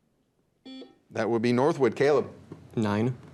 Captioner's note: buzzer beeps